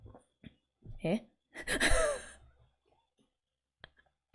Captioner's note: laughs